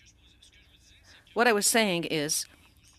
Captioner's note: speaking French